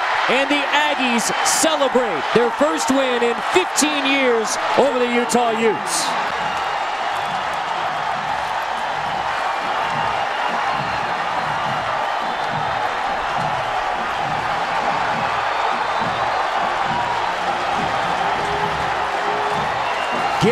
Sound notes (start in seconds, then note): 6.6 crowd cheering